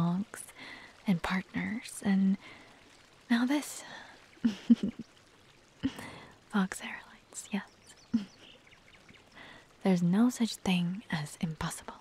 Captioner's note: chuckles